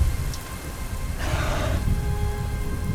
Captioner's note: growls softly